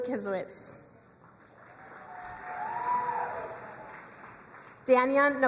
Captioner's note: crowd cheering and applauding